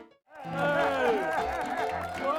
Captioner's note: audience applauds; relaxed music; jaunty piano music